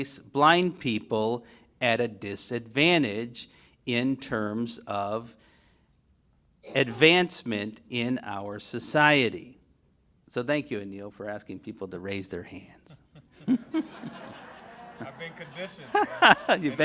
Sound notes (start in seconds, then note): 13.0 laughs